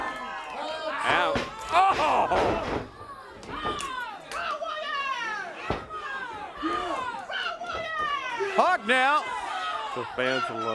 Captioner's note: crowd cheers